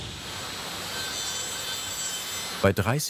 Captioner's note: drilling noises